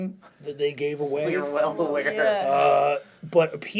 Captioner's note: laughs